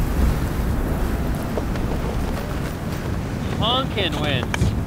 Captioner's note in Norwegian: plystrende vind